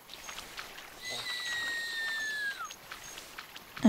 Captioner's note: whistles to Marbles